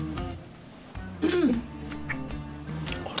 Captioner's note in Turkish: Boğazını temizledi